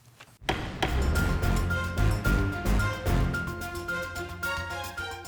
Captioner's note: gavel bangs; dramatic music